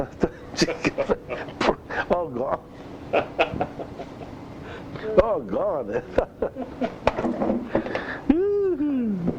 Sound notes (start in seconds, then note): 0.0 laughs; 3.0 laughter; 5.8 laughter